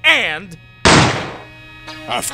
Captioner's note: bang!